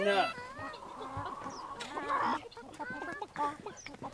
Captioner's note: chickens clucking